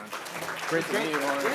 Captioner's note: audience applauding